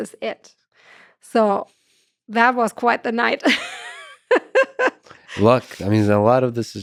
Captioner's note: laughs